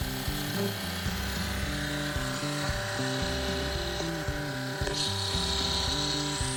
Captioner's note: pump rumbles; upbeat music